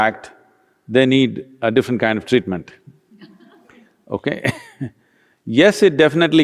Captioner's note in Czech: Smích